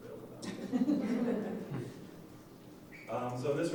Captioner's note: laughing